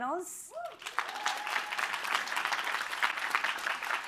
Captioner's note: applause